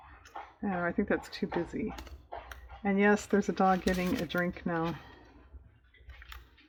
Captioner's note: dog drinking